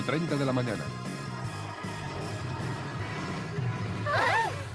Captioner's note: tires squealing